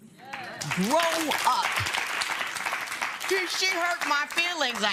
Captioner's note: applause